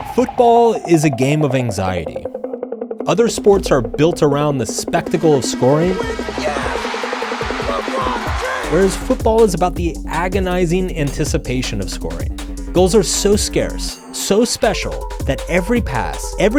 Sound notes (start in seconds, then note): 6.1 crowd cheering